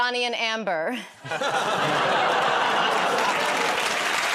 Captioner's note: laughs; applause; audience groans